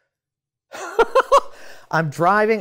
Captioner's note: laughs